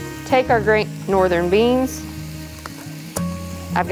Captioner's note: food sizzling